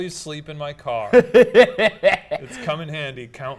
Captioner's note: laughing